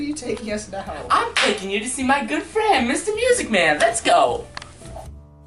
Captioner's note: clap; smooth jazz